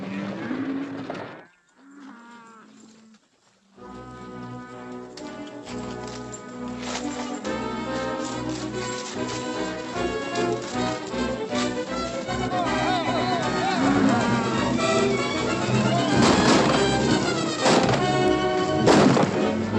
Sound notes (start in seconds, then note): 3.9 defiant music; 12.6 men yelling; 12.6 cattle mooing; 15.9 firing